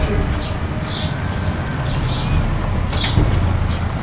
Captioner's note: tank sounds